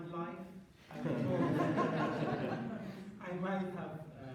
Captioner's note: laughter